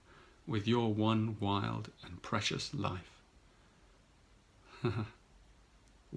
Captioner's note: chuckles